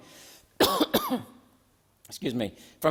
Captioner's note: senator coughing